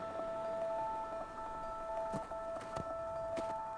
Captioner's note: footsteps crunching